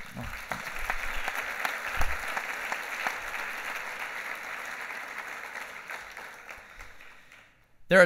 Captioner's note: clapping